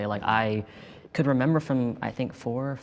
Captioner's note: none